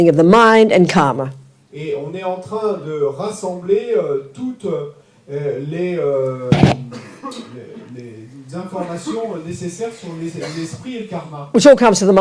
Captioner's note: French